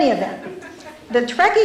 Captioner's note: laughter